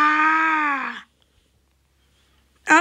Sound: crying

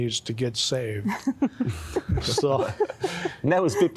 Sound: giggling

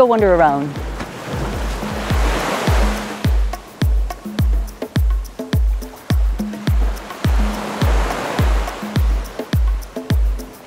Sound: sound of waves

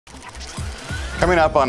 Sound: electronic whirring

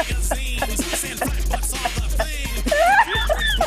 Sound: laugh

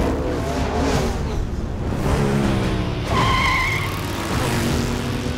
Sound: tires screeching

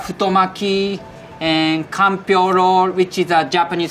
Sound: text chiming

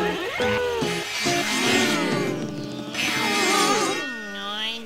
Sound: sawing

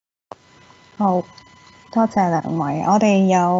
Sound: Cantonese

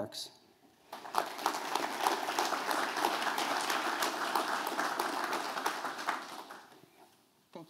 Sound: applause

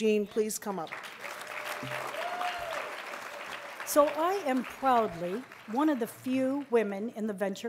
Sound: applause

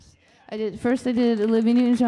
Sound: audience applauding

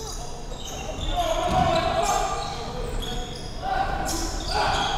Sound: players yelling

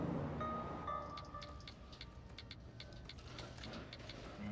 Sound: phone typing

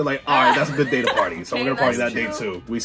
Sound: laughs

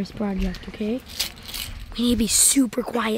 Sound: coins jingling

